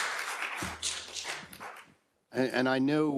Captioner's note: attendees applauding